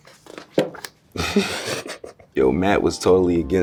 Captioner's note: laughs